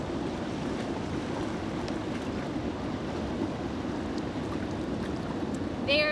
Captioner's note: river flowing